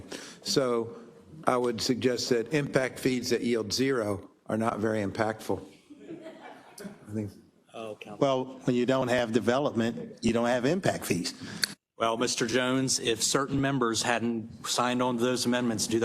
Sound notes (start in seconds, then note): 5.9 laugh